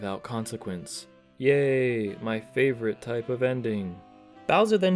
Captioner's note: sarcastically